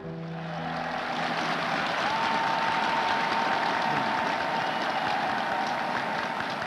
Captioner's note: crowd applauding